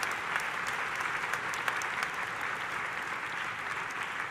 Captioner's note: audience applauding